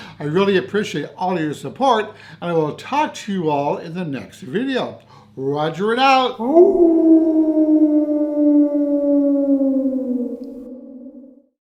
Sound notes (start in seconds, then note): 6.4 wolf howl